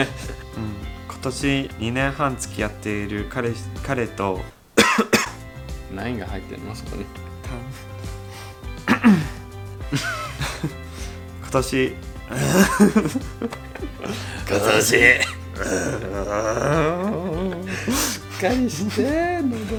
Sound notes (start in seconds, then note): 17.3 deepens voice